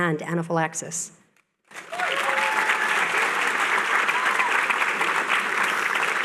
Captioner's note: applause